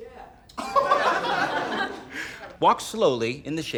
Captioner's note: laughter